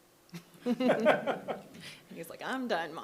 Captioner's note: people chuckling